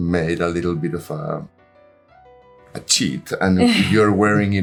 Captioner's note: Angelina laughing